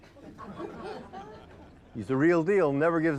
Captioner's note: group laughing